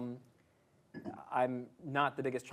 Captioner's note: coughs